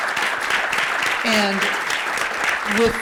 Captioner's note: applause